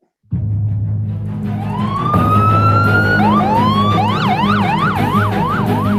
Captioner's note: upbeat music; ambulance siren ringing